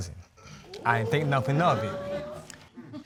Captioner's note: audience gasps